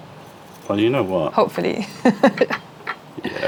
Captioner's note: laughter